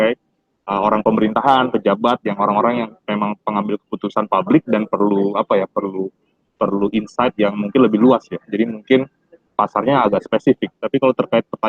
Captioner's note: speaking indonesian